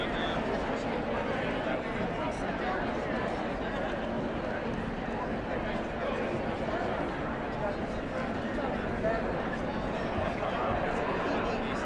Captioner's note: indistinct chatter